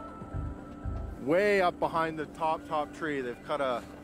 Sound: voiceover

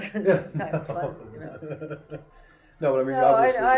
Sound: laughter

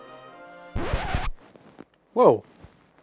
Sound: record scratching

